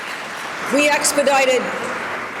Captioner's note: applause